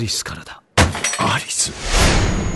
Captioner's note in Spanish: Jack golpea la mesa